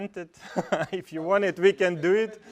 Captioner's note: laugh